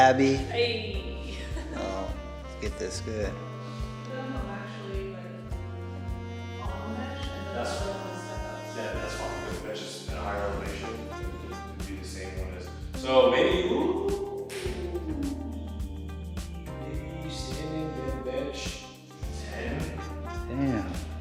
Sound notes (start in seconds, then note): 1.3 chuckles; 16.2 snaps; 17.5 music drowns out voice